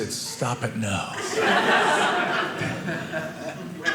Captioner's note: audience laughing